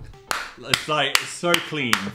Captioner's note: Dan claps